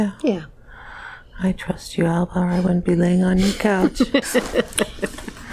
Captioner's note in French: rires